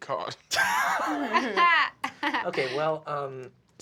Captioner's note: laughter